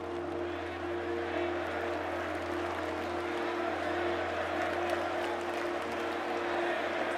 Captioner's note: crowd cheering; melancholic music continues